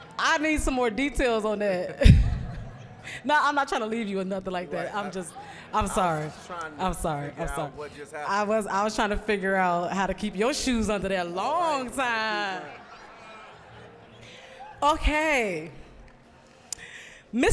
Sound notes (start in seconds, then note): 2.0 audience laughing; 12.1 audience laughing